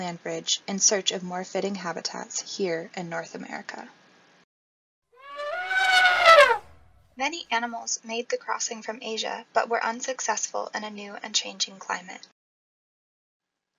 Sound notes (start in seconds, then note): 5.2 elephant trumpets